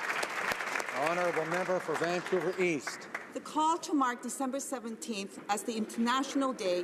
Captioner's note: applause